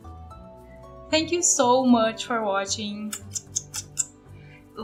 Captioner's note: kiss noises